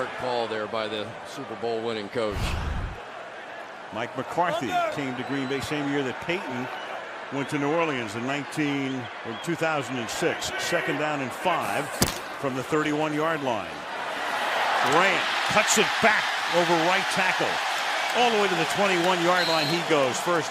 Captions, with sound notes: Pretty smart call there by the Super Bowl winning coach. Mike McCarthy came to Green Bay same year that Payton went to New Orleans in '19-- from 2006. Second down and 5 from the 31-yard line. [cheering] Grant cuts it back over right tackle. All the way to the 21-yard line he goes.